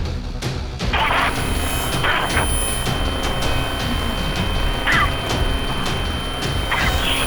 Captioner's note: static buzzing; high pitched ringing